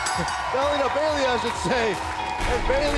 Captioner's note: bell